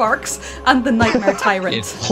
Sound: laughter

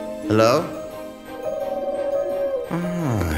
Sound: cooing sound

